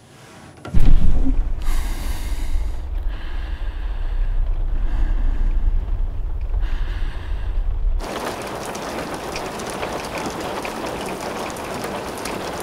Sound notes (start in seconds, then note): 1.5 breathing heavily; 8.0 rain pattering